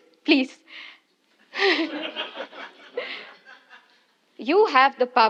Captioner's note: laugh